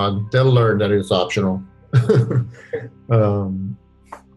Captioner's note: laughs